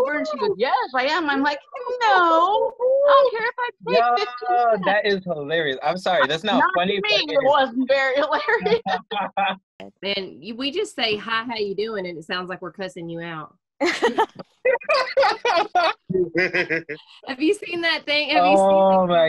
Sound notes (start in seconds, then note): 4.4 laughter; 8.3 laughter; 13.8 laughter